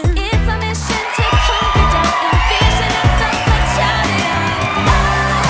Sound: energetic pop music continues; crowd cheers; energetic pop music continues

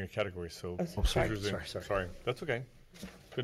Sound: multiple Voices

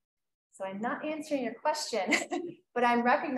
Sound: chuckles

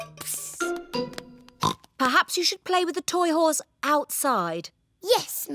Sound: oinks

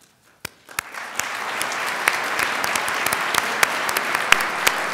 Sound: crowd applauds

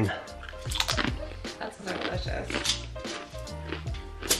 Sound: pretzel crunches

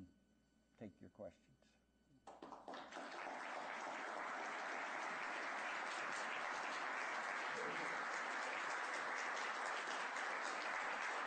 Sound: applause

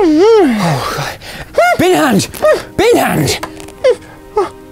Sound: gasp; zb yelps

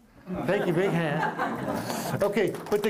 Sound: applause

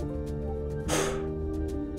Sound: sighs

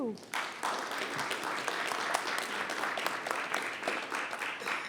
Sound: audience applauds

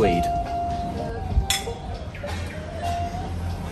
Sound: glasses clink

